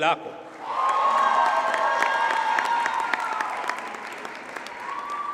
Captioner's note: audience cheers and applauds